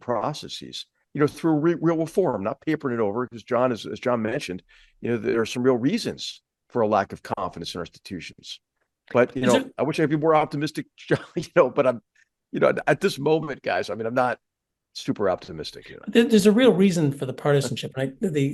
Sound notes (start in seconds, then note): 9.4 laugh